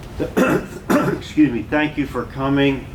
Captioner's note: clears Throat